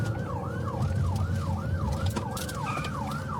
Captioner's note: siren wailing